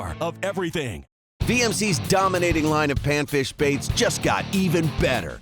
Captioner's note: voiceover